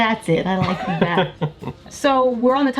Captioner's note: laughing